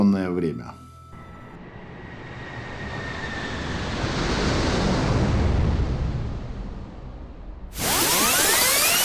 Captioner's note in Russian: звук проносящегося мимо Деда Мороза в санях